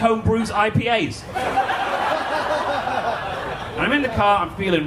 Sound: audience laughing

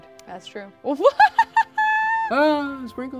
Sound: laughs

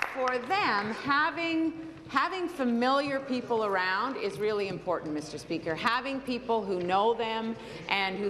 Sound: applause

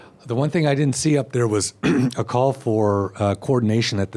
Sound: clears throat

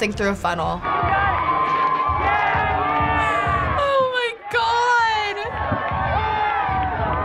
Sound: crowd cheering

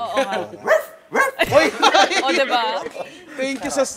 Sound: laughs

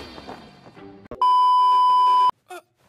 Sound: beep

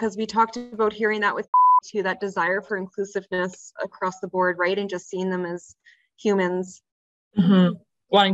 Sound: beep

